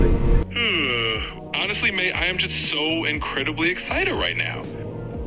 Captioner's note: jawning